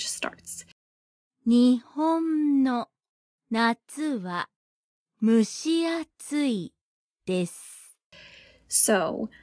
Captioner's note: podcast audio